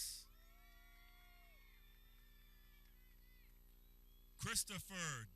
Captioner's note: people cheering